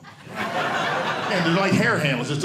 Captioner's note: audience laughing